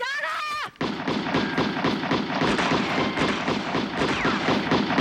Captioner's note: guns firing